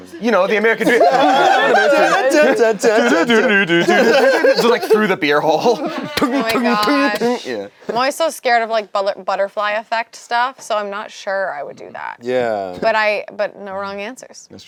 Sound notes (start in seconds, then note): 0.0 laughs; 1.1 group laughs; 1.9 hum